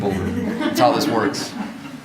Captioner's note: audience laughs